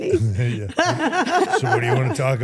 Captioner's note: everyone laughs